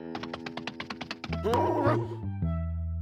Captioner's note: grunts